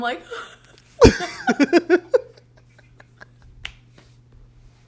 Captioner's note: both laugh